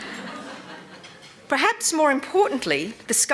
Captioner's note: laughter